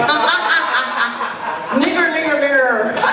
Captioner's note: laughs loudly; laughter